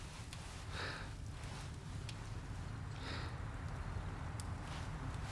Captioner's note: heavy breathing